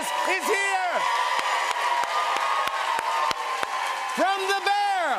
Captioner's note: cheers and applause